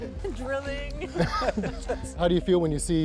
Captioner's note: laughter